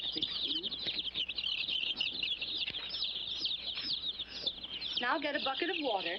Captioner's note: chicks chirping